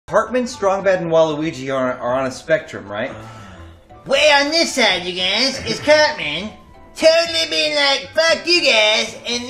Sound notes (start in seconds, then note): 3.0 sexy groan